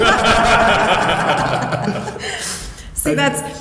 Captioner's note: laughing